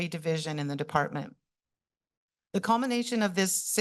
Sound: pause

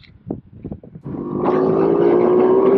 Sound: ATV motor noise

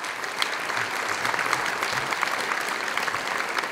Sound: audience applauds

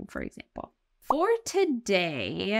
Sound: text overlay blooping

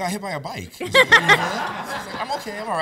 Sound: laughs

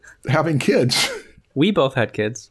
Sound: chuckles

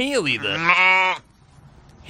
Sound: bleating

